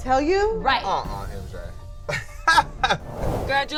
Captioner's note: laughs